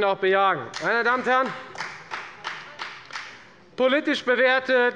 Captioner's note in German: Beifall des Abg